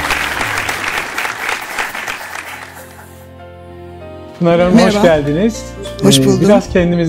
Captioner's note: applause